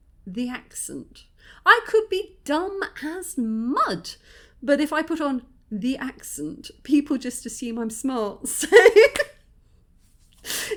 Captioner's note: laughing